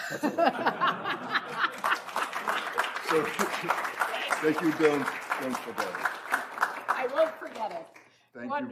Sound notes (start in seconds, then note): 0.0 laughs; 1.1 applause